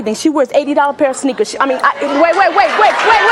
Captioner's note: audience hollering